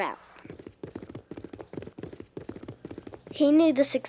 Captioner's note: hooves thudding